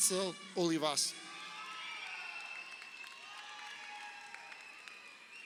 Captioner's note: crowd cheering